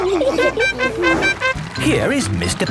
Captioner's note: all laughing; horn tooting